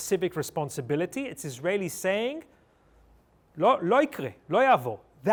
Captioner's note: speaking hebrew